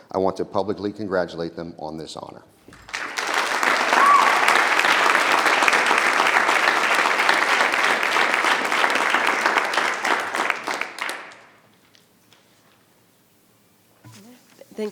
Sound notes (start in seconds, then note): 2.7 audience applause